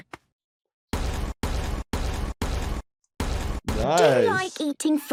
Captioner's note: banging and booming